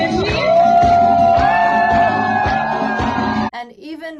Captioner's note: applause